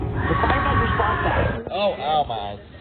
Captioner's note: voice screeching